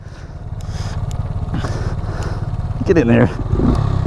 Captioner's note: clicks